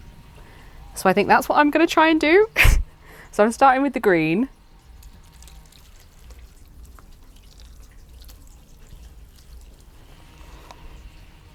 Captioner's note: drizzling